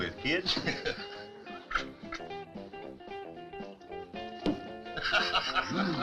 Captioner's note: lively music; both chuckling